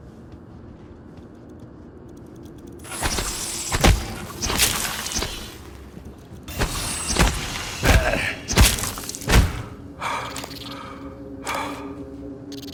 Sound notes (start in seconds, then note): 3.6 mimic creature splattering; 7.8 Morgan grunting; 10.6 panting